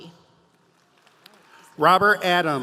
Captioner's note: audience applauding